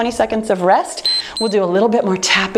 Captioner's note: timer beeps